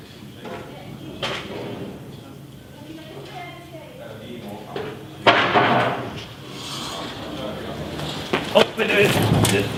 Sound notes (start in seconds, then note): 6.4 elevator is closing